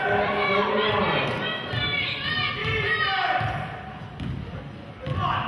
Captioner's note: players hollering